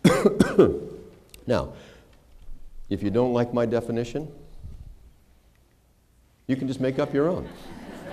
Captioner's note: laughter